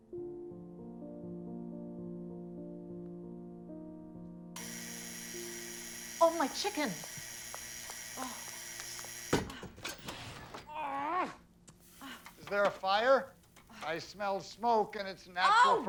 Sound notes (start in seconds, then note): 0.0 soft piano music continues; 4.5 timer buzzing; 10.7 Patricia groaning